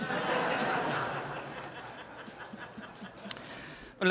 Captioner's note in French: rires